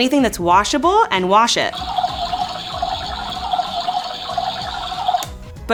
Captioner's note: washing machine toy bubbling